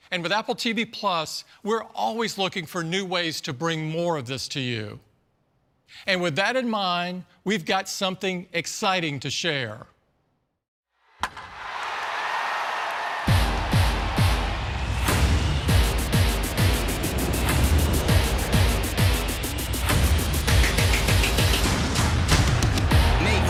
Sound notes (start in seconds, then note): 11.2 crowd cheering; 13.3 dramatic music